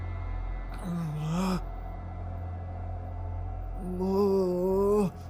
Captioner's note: Kenny groans